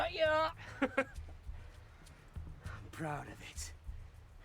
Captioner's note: man laughs